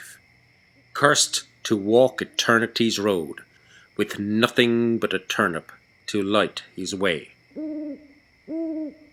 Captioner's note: owl Hoots